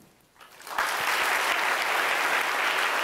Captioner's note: applause